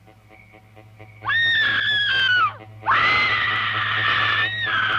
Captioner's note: screaming